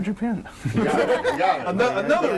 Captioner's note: all laughing